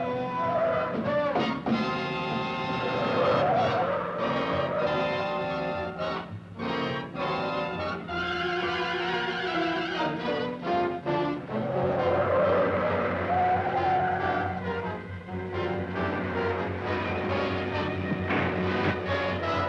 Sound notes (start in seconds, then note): 0.0 tires squealing; 12.3 tires squealing